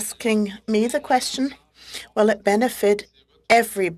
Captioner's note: speaking French